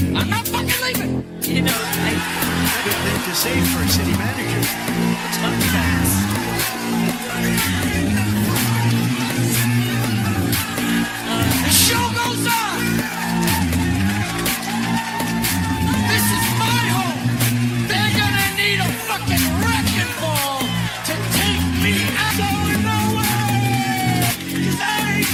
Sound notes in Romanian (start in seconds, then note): 5.1 Aplauze; 12.7 Aplauze